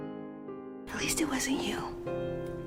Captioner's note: voiceover